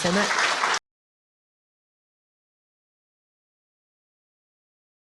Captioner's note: applause